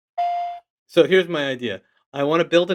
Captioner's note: phone beeps